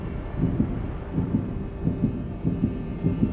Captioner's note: heart beats quicken